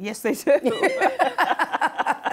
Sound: laughter

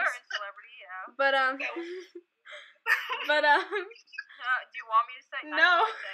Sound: laughing

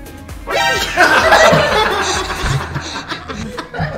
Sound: laughing

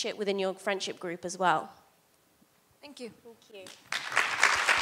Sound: applause

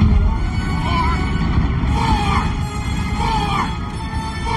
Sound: squawking noise

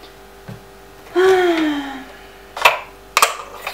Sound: deep sigh

